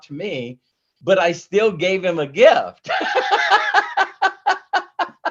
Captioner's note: laughs